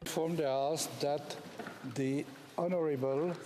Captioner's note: speaking French